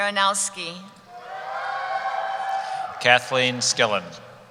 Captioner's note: cheering